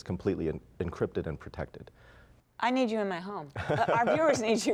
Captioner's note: laughter